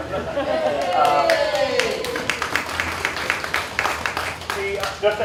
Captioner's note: applause